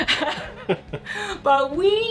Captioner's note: laughter